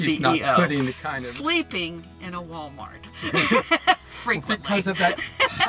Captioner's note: laughs